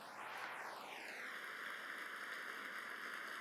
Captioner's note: applause